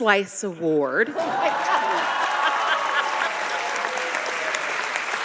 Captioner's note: audience applauding